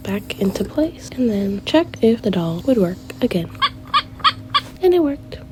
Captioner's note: doll crying sound